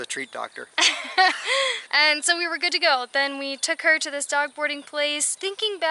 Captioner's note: laughter